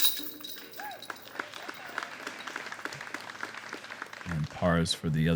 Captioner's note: applause